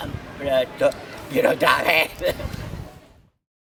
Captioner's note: laughing